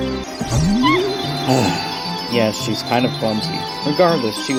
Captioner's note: sigh